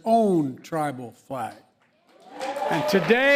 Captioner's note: applause